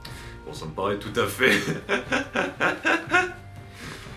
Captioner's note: laughs